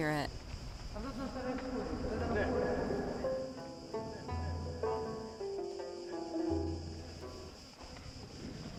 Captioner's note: sound: Echoed voices